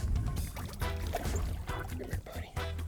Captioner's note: water splashing